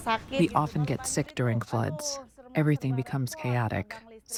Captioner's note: through translator